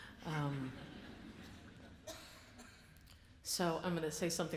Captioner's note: audience laughs